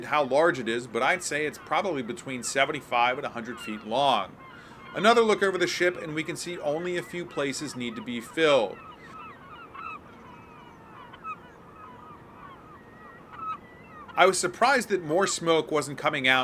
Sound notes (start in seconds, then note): 13.0 birds chirping